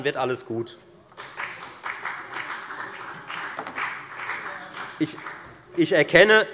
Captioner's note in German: Beifall bei der FDP